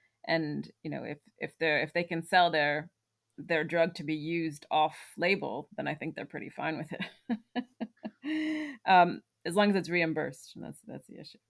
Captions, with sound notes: and you know if if they're if they can sell their, their drug to be used off-label, then I think they're pretty fine with it, *laughs* uhm, as long as it's reimbursed, that's that's the issue.